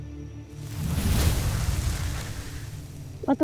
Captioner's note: music fades; infernal whoosh-crackle